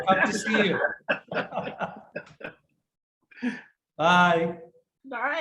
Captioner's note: laughing